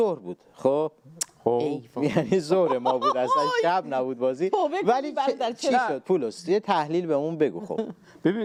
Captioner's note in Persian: خنده